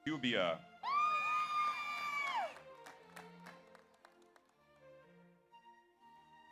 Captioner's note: audience cheers; audience applauds